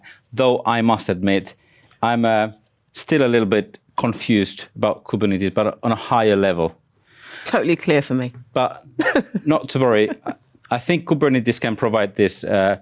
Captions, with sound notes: though I must admit, - I'm still a little bit confused about Kubernetes, - but on a higher level. Totally clear for me [laughs] - But... Not to worry, - Kubernetes can provide this -